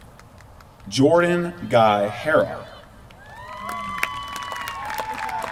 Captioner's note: applause